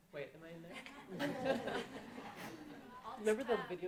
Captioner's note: audience laughing